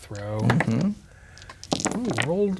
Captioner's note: dice rolling